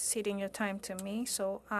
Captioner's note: speaking French